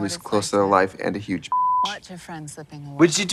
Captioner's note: beep